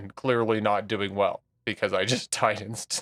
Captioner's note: laughs